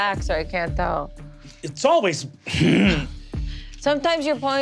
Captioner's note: grunts